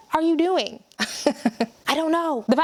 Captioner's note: laughs